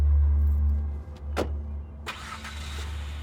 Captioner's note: door shuts; car starts